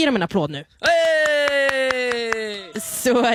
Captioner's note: applause